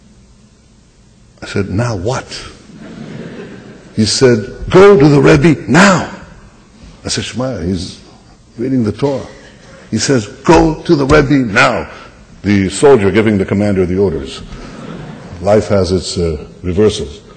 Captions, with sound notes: I said, “Now what?” (laughter) He said, “Go to the Rebbe now.” I said, “Shamaya, he’s reading the Torah.” He says, “Go to the Rebbe now.” The soldier giving the commander the orders. Life has its reversals.